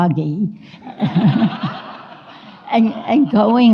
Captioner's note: audience laughs